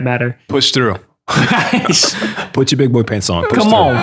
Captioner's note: laughter